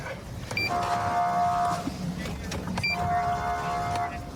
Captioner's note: horn blaring